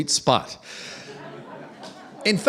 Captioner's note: laughter